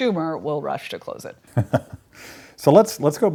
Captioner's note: laughs